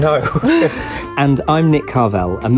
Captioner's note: laughing